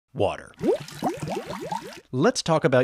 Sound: water gurgling

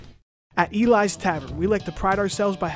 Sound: voiceover

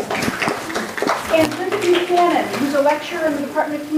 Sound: crowd cheers

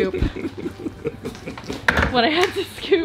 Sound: laughs

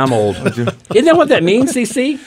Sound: laughter

